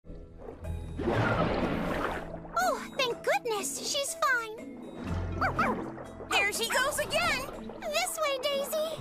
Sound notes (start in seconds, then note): 5.4 barking